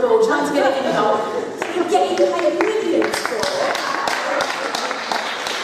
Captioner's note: clapping